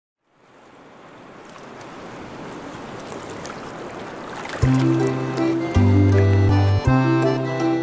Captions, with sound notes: [SOUNDS OF THE SEA] with Fiona Fish Finger and friends